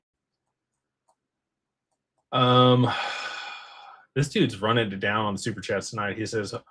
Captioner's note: sighs